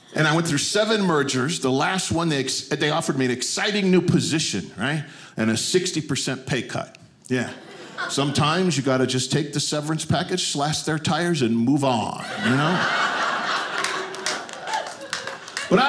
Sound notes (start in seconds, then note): 12.2 audience laughing